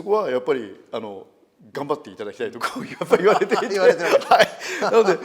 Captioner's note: laugh